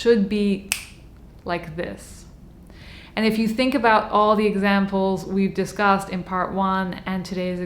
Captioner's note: snaps fingers